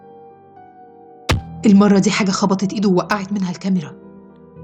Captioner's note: strike sound